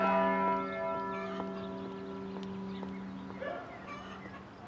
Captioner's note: church bell ringing